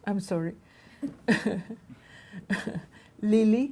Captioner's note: laughing